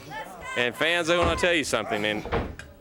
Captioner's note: crowd chatter